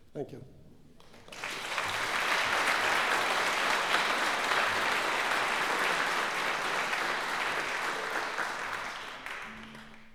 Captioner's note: applause